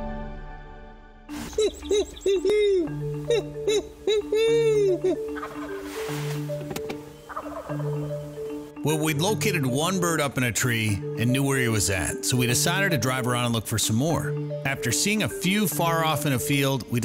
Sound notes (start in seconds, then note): 1.3 somber music; 1.4 turkeys gobbling